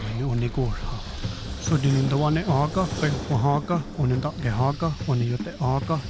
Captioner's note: speaking Native language; fire crackling